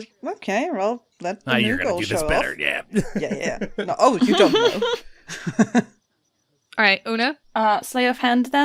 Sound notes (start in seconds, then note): 5.2 laughter